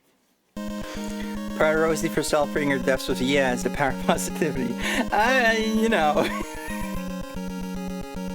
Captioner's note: laughs